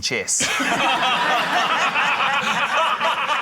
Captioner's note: laughter